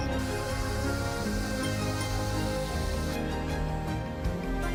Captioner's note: spray paint hissing